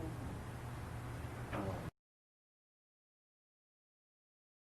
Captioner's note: person speaking off mic